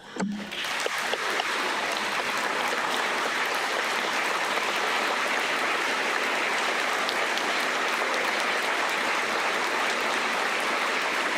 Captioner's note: applause